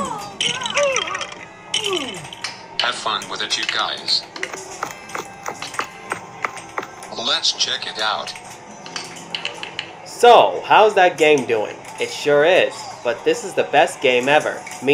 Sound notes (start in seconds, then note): 0.3 breaking apart; 8.9 billiards playing